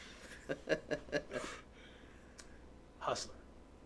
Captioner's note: laughing